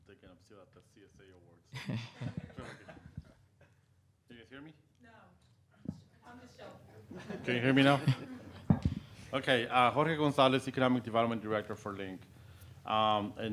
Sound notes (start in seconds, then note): 1.8 scattered laughing